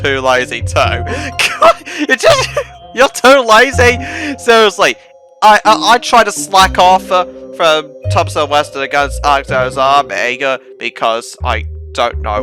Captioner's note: still laughing like a maniac